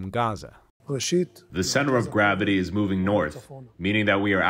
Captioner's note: through translator